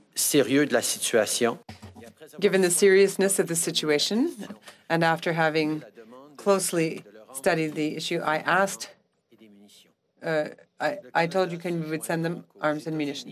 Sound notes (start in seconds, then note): 4.9 speaking French